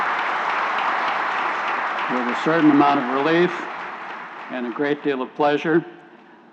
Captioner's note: applause